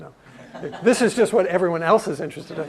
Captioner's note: laugh